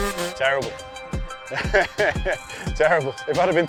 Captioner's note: laughs